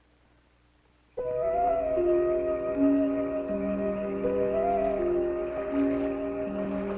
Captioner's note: tense music; frogs croaking